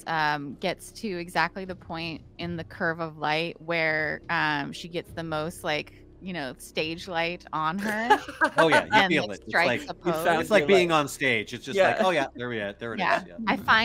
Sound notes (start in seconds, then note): 7.8 laughing